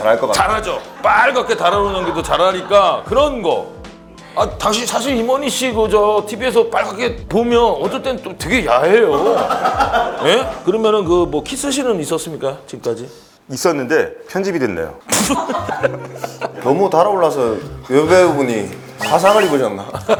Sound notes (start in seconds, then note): 9.1 hahaha; 15.1 hahaha